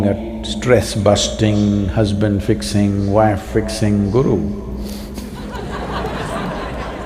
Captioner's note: laughter